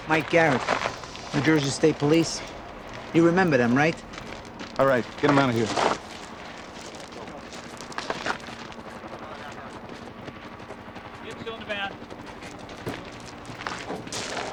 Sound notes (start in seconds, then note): 8.2 agents chattering; 8.2 helicopter whirring